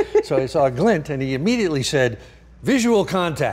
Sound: laughing

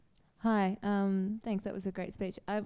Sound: voiceover

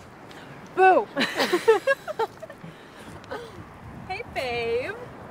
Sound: more laughing

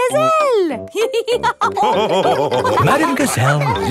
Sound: all laughing

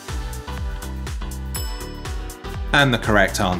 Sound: bell clinking

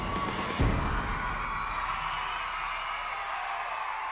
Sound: crowd cheering

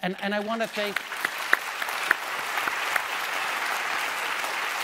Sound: applause

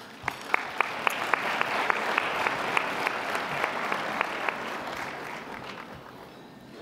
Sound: applause

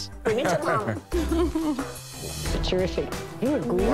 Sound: laughs

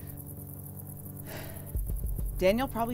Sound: Sandra sighs

